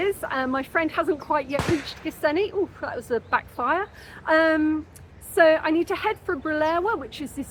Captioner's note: bang